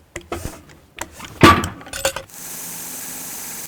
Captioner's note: metal clanks; saw whirring